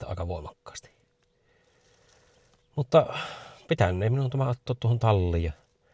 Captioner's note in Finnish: huokaus